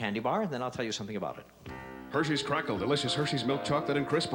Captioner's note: none